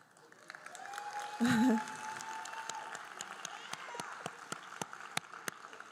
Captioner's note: audience cheering and applauding